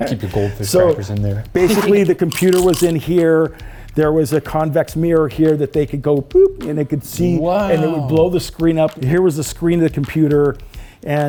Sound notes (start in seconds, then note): 1.6 zipper humming; 1.6 crackers crunching